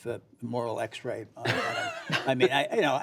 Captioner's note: laughter